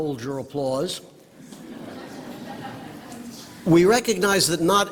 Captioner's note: laughter